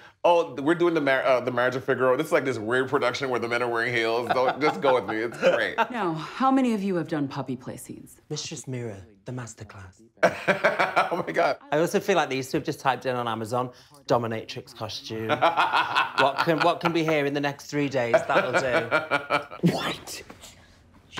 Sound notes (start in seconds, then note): 10.2 laughing; 15.3 laughing